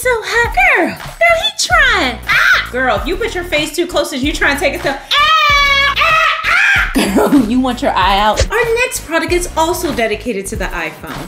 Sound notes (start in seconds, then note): 5.0 yells